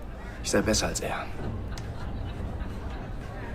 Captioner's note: indistinct chatter